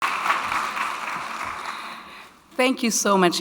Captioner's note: audience clapping